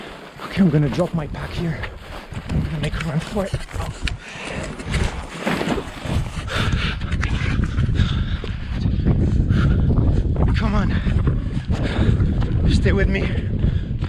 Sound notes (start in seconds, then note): 5.1 heavy breathing